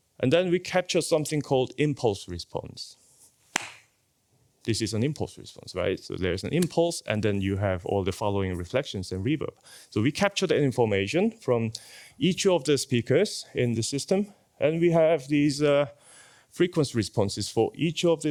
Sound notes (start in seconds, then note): 3.5 claps